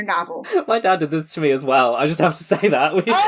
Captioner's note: laughing